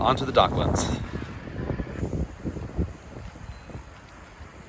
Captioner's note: wind blowing